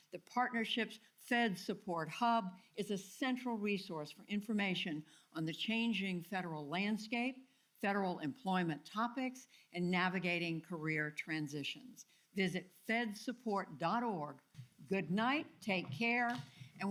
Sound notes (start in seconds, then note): none